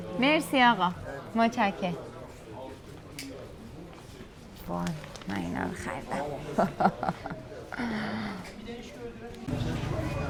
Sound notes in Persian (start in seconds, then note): 6.4 خنده